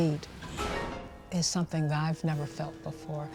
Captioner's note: dramatic whoosh